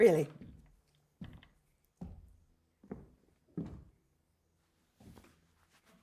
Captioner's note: footsteps